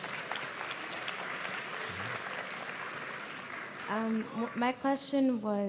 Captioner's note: applause